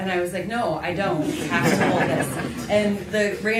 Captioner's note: laughter